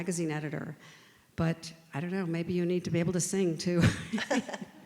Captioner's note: both laugh